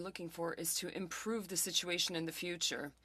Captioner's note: speaking French